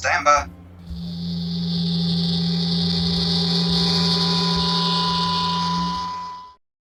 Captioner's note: transporter sound